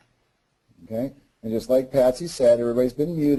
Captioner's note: voiceover